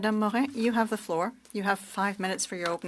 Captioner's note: speaking French